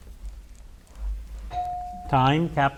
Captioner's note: bell dings